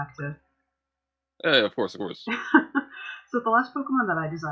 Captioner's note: laughter